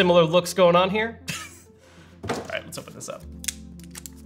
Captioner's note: laughs